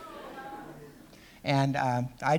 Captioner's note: laughter